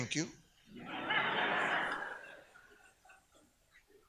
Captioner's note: audience laughs